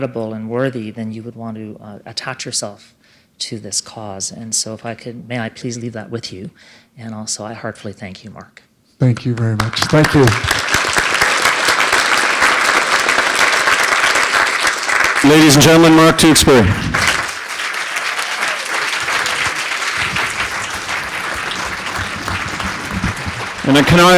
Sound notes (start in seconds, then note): 10.4 applause; 18.9 applause